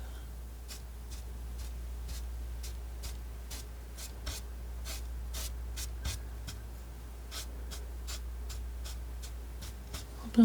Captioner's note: scratching